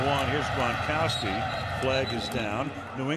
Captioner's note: whistle blows